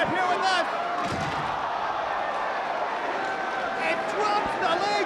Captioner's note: spectators exclaiming